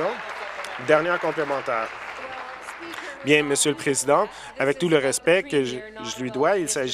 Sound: applause

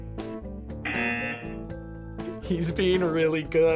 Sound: buzzer buzzes

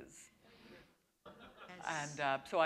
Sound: laughter

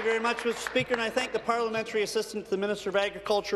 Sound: applause

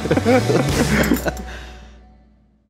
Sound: laughs

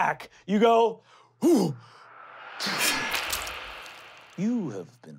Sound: slicing; blood squirting

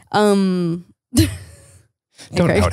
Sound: laughing

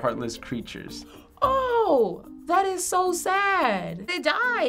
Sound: gasping

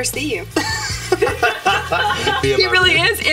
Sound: people laughing

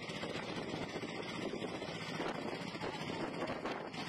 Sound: speaking in foreign language; wind blowing

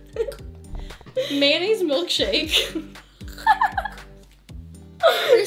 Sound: laughter

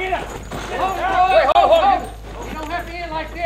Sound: men shout

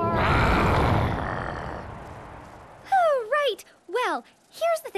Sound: growling

